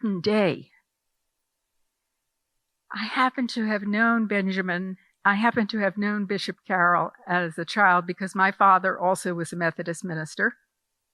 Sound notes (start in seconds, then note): none